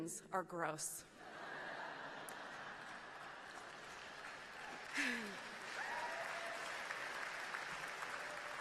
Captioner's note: laughing, clapping